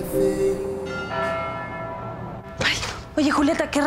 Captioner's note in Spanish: Campanadas